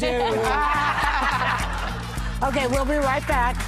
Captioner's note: laughing